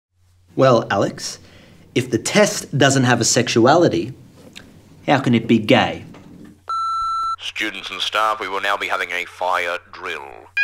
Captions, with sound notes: - Well, Alex, if the test doesn't have a sexuality, how can it be gay? (intercom beeps) - Students and staff, we will now be having a fire drill.